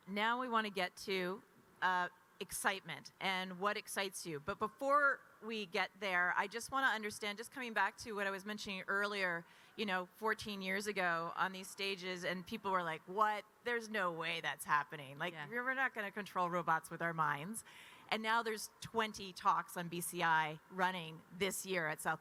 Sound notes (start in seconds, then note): none